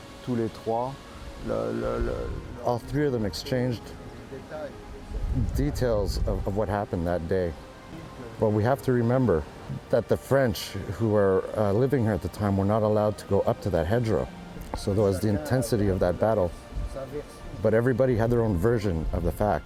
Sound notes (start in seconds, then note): 0.9 speaking foreign